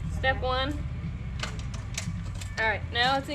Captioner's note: pedals clicking